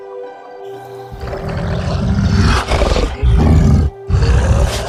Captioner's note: snarling